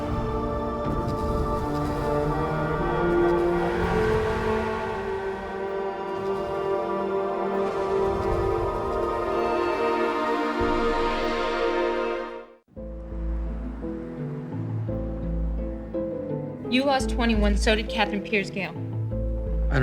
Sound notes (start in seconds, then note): 2.4 horn honking; 5.6 dramatic music